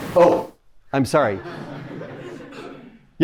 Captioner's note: laughter